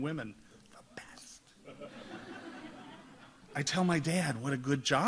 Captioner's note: audience laughs